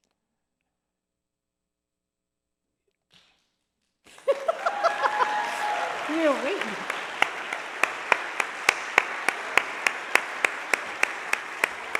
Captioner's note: laughing